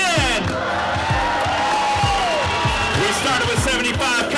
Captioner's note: cheering